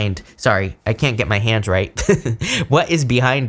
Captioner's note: chuckles